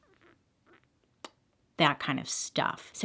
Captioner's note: kissing